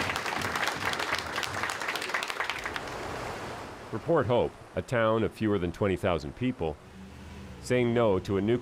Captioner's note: applause